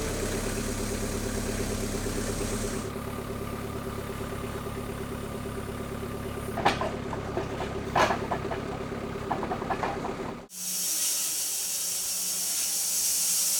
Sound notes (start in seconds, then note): 6.5 metal clanking; 10.5 saw whirring